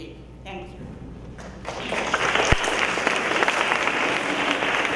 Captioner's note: audience applauding